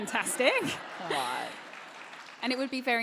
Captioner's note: applause / Laughter